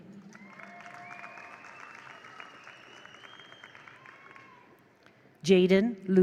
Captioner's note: attendees applaud; attendees cheer